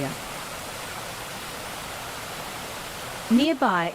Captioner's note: water gushing